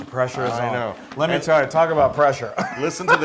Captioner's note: laugh